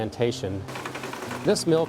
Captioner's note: machinery